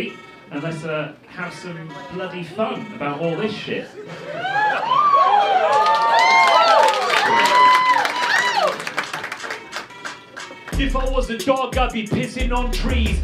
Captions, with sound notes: A let's have some bloody fun about all this shit. (excited yells) (rap beat playing) - If I was the dog, I'd be pissing on trees.